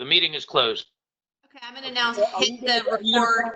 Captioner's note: murmurs